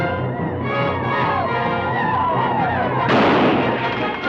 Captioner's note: native Americans howl; guns fire